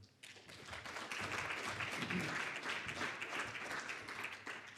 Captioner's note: audience applauding